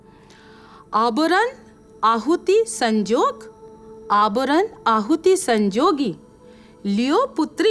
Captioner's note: speaking in Dingal